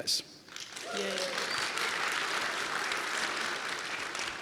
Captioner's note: audience applauds